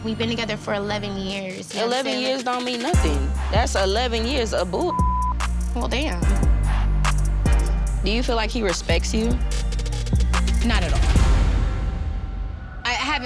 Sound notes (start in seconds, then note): 4.8 beep; 7.1 reflective music; 12.0 dramatic music